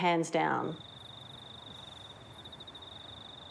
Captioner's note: crickets chirp